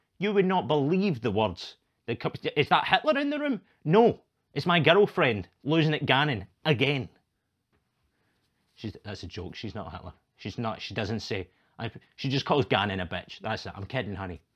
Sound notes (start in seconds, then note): none